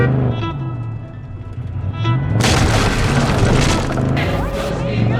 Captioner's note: horn honking; gun firing